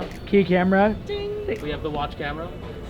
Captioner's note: imitates bell